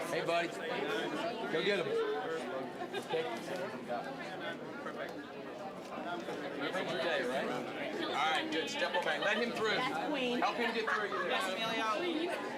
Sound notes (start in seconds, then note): 2.7 general chatter